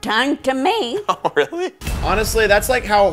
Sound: laughing

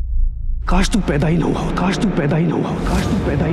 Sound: echoing; echoing continues

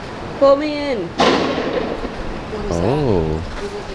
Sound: bang

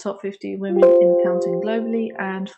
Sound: computer chimes

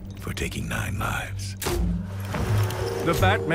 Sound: grapnel gun shoots and whirs

